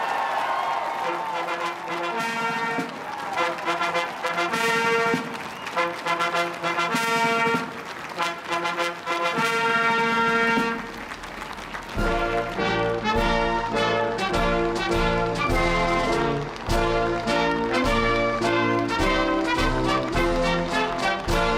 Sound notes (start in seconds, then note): 7.4 applause; 7.4 cheering